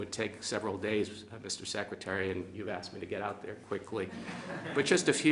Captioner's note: laughter